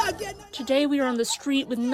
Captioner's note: through translator